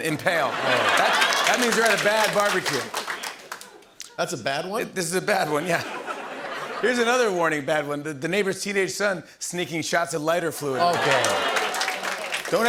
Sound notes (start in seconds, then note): 0.1 laughter and applause; 5.4 laughter